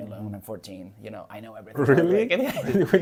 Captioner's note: laughs